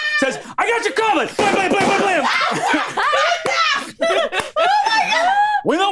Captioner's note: imitates gunshots; all laughing